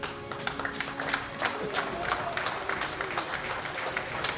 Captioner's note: applause